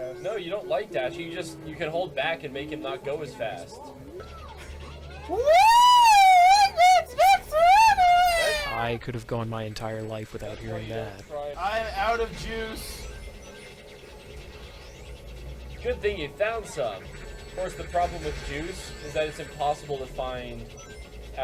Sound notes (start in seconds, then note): 5.7 loud Tails impression